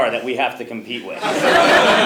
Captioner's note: laugh